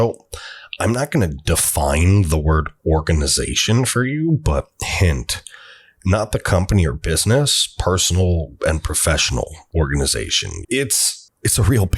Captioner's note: strenuous voice